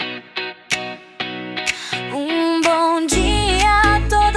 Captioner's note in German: Fremdsprache, vermutlich Portugiesisch